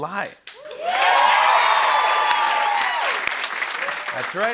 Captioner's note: cheering and applause